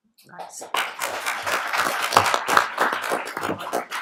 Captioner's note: applauding